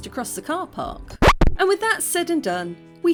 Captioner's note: record scratch